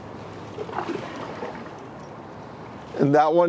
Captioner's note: scuba gear squeaks